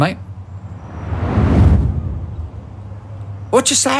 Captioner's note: whoosh